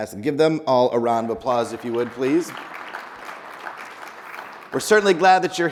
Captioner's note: people applauding